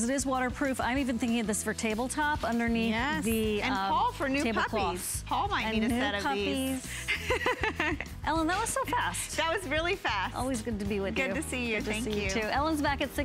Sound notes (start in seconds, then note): 6.9 laughter